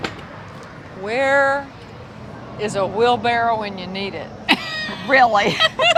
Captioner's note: laughing